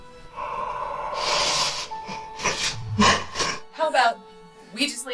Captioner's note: Chemock breathes heavily